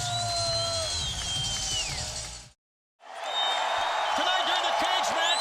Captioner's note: audience cheering